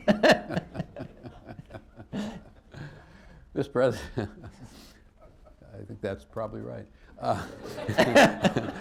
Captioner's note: laughter